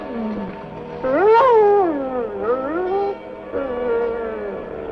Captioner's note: dog whimpering